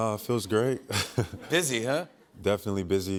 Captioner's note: chuckles